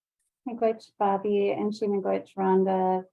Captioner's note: speaking in foreign language